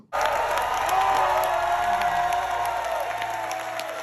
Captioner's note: audience applauds